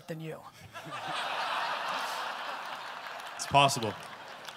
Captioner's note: audience laughter